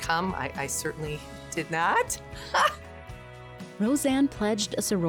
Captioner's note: laughing